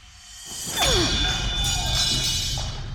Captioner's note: clanging